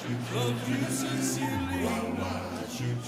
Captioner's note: audience laughs